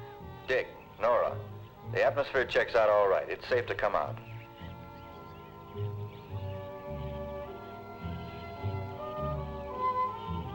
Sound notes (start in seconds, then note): 4.4 birds chirping; 4.4 gentle music